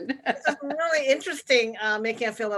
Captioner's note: laughing